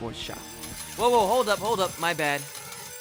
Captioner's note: coins dropping